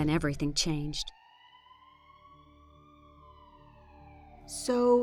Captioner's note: ambulance Siren